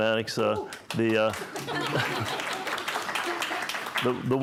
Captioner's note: audience laughs